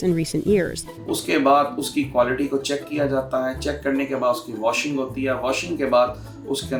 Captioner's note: speaks in a foreign language